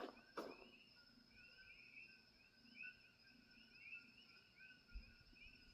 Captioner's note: coquí frogs chirping